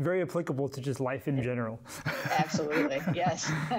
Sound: laughing

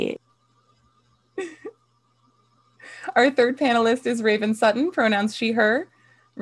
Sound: laughing

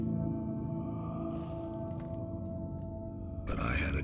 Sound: ghostly breathing

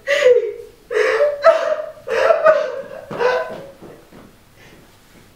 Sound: cries

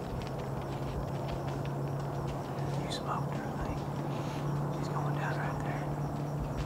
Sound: whispering

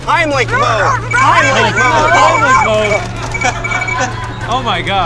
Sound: gags

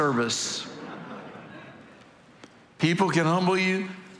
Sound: congregation laughing

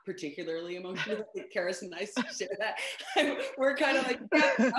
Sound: laughs

